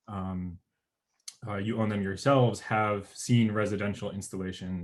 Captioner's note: murmurs